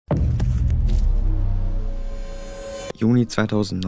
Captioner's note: dramatic Sound Effect